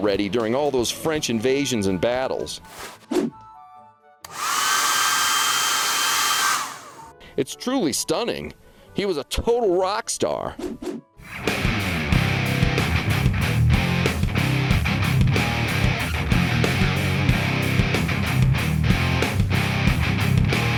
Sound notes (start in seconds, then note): 5.2 whooshes; 12.9 guitar music